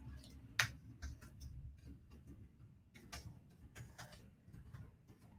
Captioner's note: keyboard clattering